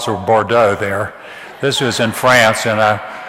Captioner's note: audience laughs